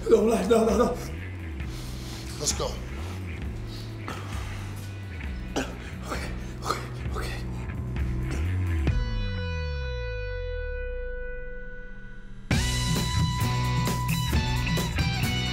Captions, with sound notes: No, no, no. Let's go... [SOBBING] Ok, Ok, Ok...